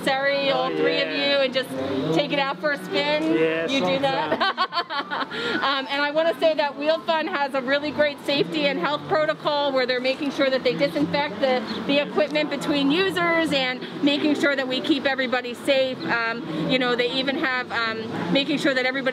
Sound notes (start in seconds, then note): 3.0 laughing